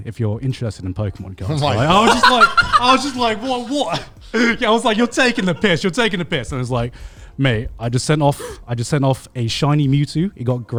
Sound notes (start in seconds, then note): 1.5 laughs